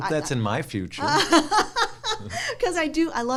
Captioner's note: laughs